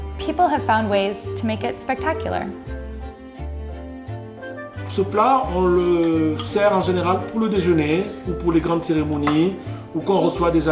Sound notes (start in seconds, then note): 2.9 bright music; 5.0 speaking in foreign language